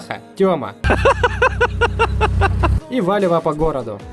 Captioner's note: giggles